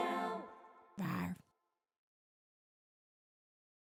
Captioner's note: roaring